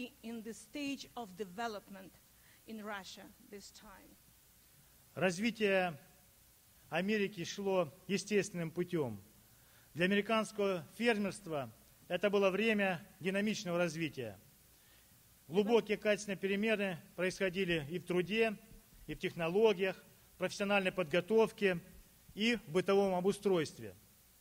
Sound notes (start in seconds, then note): 4.7 speaking Russian